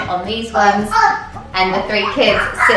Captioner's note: kids screaming